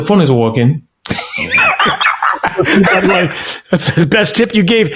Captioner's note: laughing